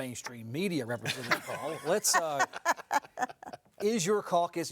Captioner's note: all laugh